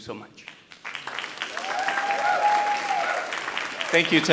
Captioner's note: audience cheering and applauding